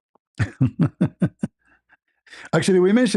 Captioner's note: ketawa